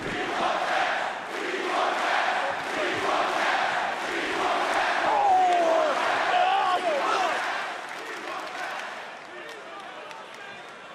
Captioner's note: fans chanting